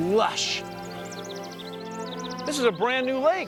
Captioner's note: birds chirping